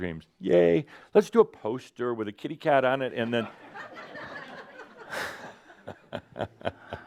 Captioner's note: laughter and Adamus chuckles